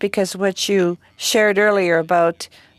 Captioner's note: speaking French